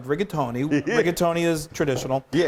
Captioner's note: giggling